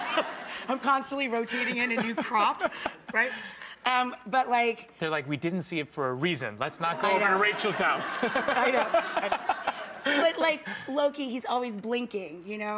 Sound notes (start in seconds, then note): 8.1 laughing